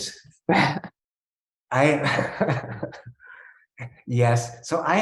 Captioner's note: chuckling